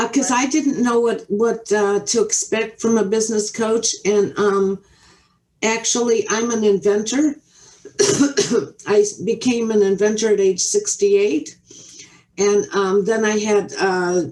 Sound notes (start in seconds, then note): 7.8 coughs